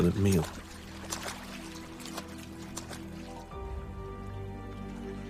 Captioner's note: water sloshing